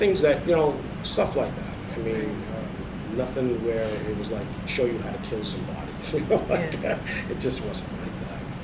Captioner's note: laughs